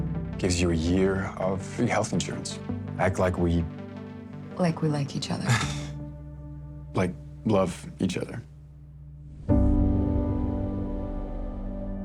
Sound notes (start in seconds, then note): 5.6 chuckles; 9.3 gentle music playing